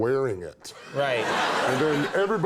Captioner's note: audience laughs